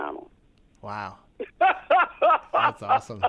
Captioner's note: laughter